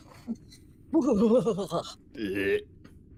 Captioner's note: shudders; gagging sound